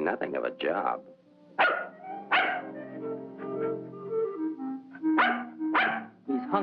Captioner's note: dog barking